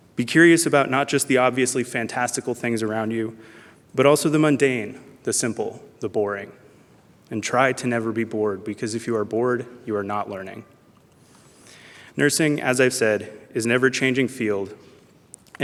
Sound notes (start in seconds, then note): none